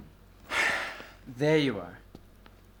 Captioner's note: sighing